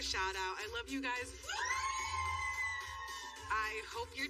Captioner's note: all cheering